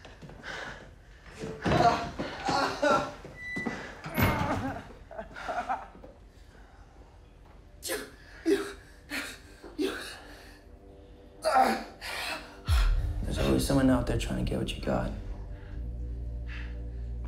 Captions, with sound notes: (door opening) (door closing) (Tyler crying) (ominous orchestral music) - You, you. - There's always someone out there trying to get what you've got,